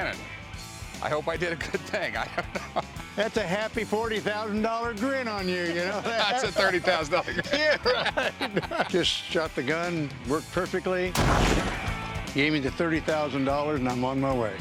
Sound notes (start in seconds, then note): 1.5 laughs; 7.6 laughter; 11.1 explosion